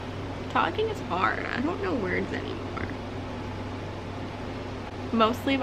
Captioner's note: stumbles, makes weird noises